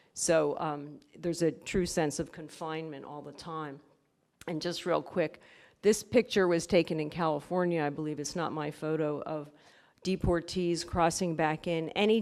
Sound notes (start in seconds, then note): none